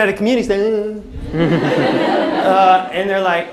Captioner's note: taunting sound